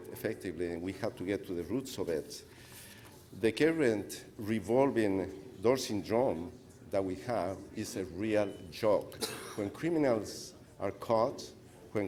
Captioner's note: speaker off mic